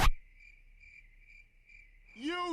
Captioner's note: crickets